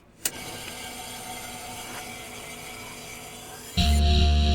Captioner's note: a click, then static